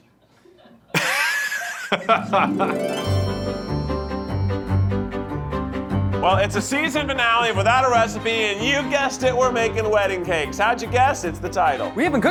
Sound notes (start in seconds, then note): 0.8 laughing; 3.1 cheerful instrumental music